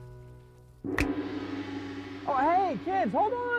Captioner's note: finger snaps; gong